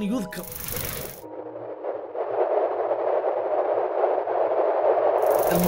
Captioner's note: wind blowing